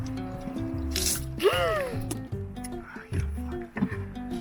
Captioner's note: squishes; gasps